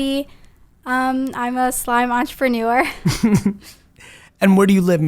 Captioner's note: laughs